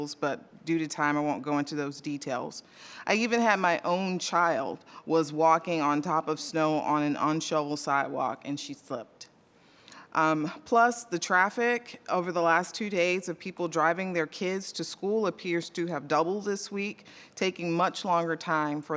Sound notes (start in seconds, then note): none